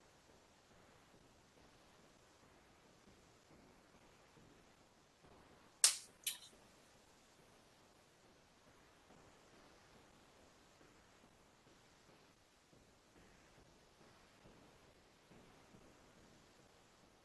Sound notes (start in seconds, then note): 5.8 snapping